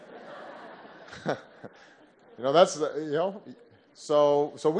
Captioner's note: laughter